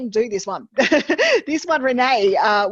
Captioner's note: chuckles